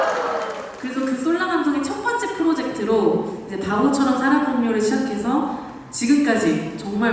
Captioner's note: exclamation